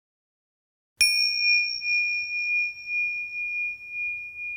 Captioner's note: ringing